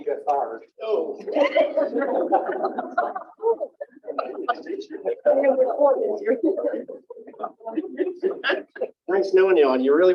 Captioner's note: laughter